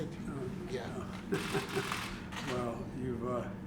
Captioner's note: laughs